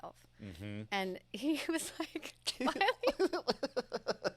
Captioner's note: laughs